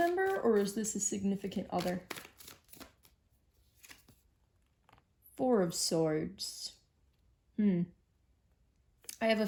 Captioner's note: shuffling tarot deck